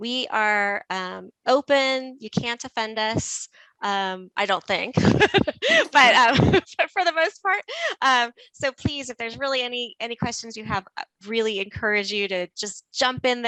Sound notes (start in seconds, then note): 5.0 laughs